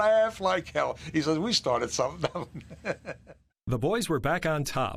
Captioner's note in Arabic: يضحك